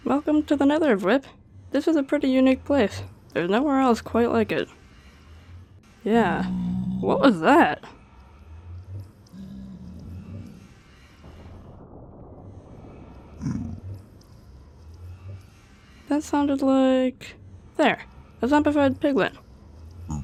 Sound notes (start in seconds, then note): 6.4 creature grumbles; 9.4 creature grumbles; 13.4 creature grunts